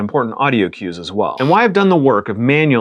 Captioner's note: buzzer